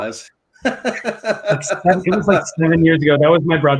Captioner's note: laughs